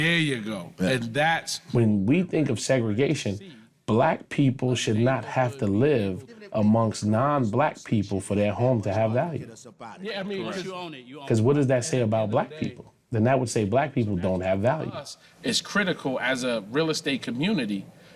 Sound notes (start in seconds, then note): 10.0 indistinct chatting